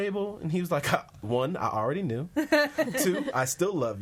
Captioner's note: laughs